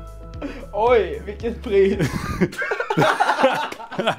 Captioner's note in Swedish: De skrattar